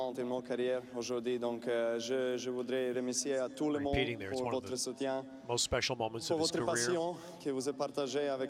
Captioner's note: speaking foreign language